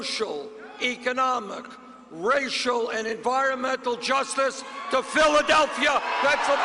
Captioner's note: cheers